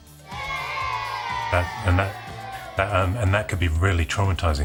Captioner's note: children booing